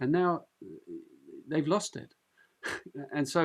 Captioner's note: chuckles